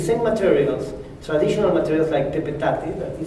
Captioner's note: spanish